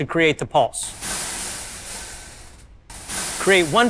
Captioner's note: slinky rattling